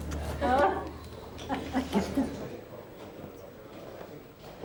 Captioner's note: giggles